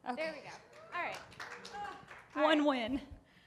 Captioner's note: audience applauding